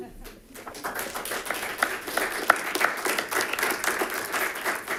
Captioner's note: attendees clapping